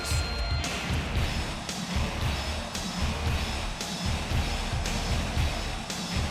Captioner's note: upbeat rock music; crowd chattering